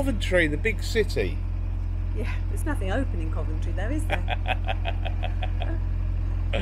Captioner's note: laughter